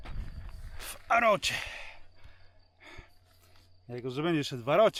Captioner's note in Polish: westchnienie